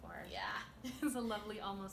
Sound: laughter

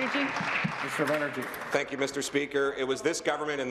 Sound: applause

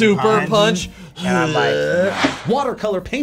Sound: grunts

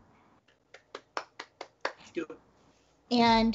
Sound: Brennan claps hands

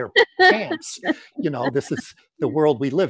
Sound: laughs

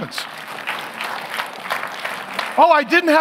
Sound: congregation clapping

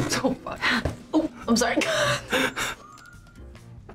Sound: both laugh

